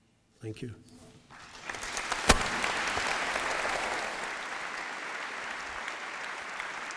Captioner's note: applause